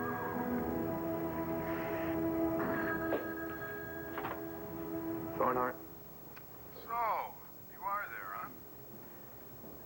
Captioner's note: telephone rings